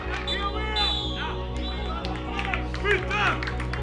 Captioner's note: referee's half-time whistle